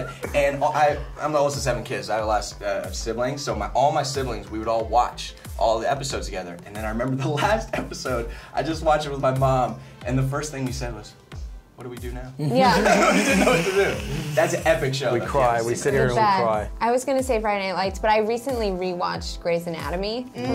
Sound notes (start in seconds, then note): 12.4 laughs